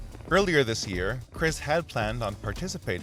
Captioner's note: voiceover